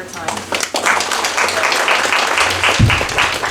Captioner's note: applause